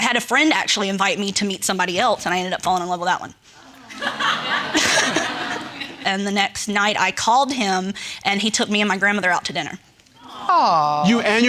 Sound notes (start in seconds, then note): 3.7 audience laughing